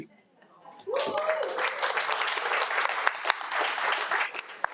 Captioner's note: audience applauding